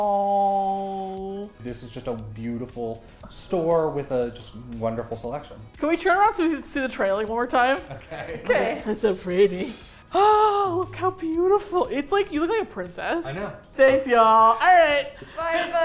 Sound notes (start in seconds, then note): 7.8 laughing